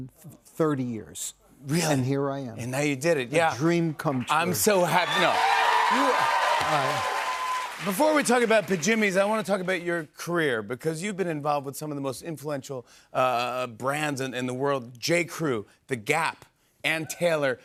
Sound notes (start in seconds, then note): 4.2 cheers and applause